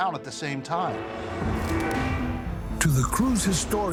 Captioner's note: water splashing